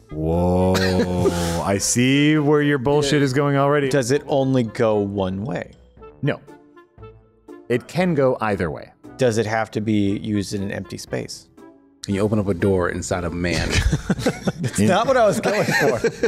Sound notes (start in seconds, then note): 15.2 laughs; 15.2 more Laughs